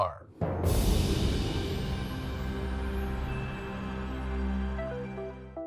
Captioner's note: soft music; wind whooshing; light upbeat music